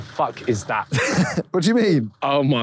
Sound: Simon chuckles

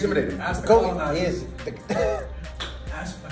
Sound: laugh

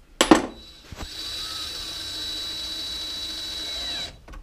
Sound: driver whirring

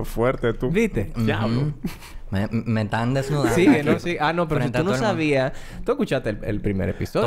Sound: laughs

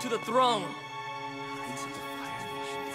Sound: whispering

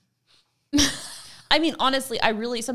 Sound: laughing

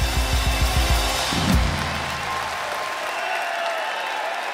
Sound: audience cheering

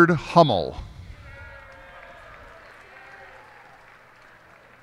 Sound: cheers and applause

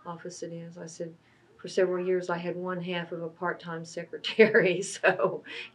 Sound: laughs

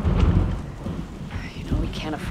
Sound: thunder crashing

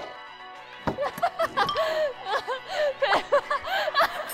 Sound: is laughing out loud

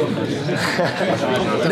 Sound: laugh

